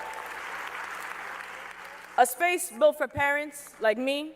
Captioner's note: cheers and applause